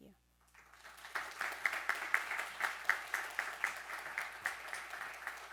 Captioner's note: attendees applauding